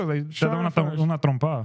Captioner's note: speaking In Foreign Language